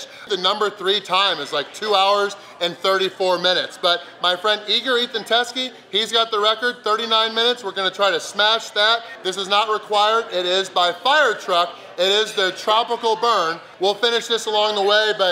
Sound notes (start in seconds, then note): none